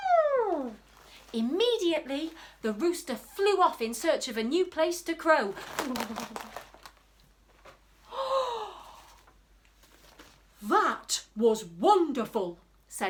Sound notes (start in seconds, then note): 5.6 flapping; 7.7 gasps